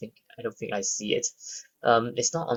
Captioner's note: breathes